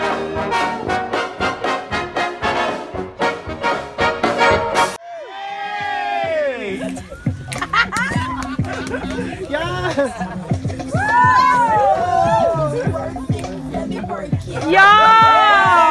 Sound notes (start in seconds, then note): 5.1 hip hop music; 7.4 cheering, laughter and applause